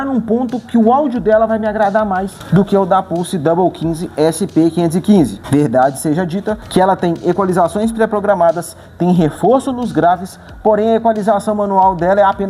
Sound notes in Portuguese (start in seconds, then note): 6.6 Pulse